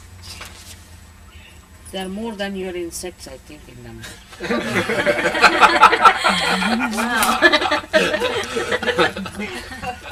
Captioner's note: laughter